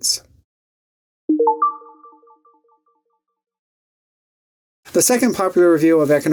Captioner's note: electronic dinging